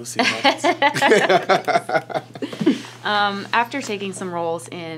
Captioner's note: laughing